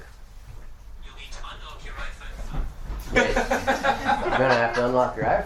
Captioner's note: laughter